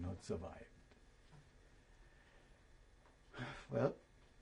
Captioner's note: sighs